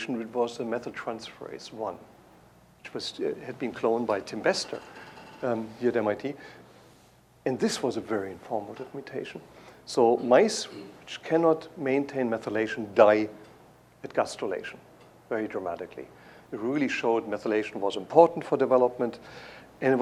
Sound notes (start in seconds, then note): none